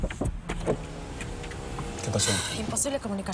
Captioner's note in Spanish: Toques en la ventanilla